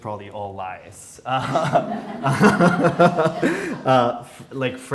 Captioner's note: all laughing